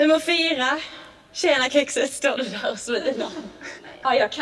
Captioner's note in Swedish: fniss